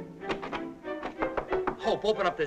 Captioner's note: knocking softly